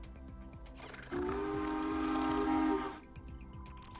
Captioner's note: choo-choo sound